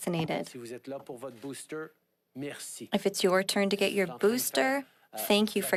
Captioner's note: speaking French